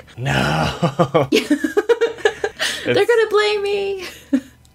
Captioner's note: laughs